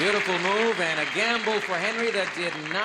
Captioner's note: applause